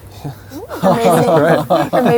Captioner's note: laughs